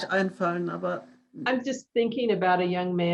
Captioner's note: foreign language